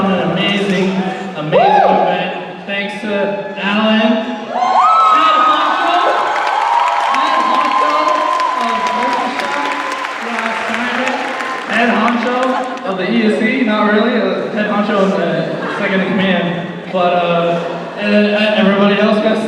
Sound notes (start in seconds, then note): 4.5 cheers and applause